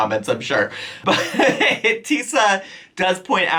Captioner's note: chuckles